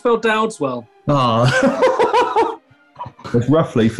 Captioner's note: laughing